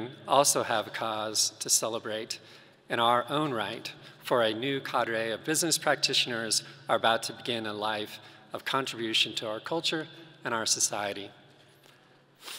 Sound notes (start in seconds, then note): none